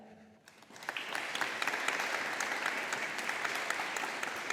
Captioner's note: audience applauding